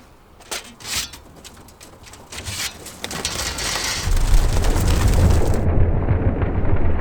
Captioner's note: metal clanking; wings rustling